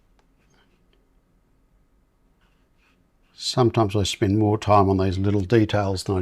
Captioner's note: silence